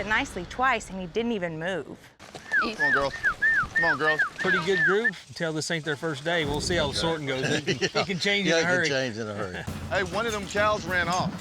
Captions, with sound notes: AND HE DIDN'T EVEN MOVE. [WHISTLING] EASY, GIRL. PRETTY GOOD GROUP. CAN TELL THIS AIN'T THEIR FIRST DAY. WE'LL SEE HOW THE SORTING GOES. [LAUGHTER] IT CAN CHANGE IN A HURRY. YEAH, IT CAN CHANGE IN A HURRY. HEY, ONE OF THEM COWS RAN OFF.